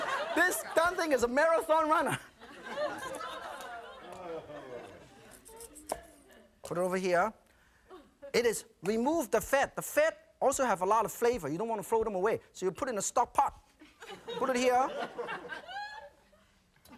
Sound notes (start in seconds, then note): 13.9 audience laughing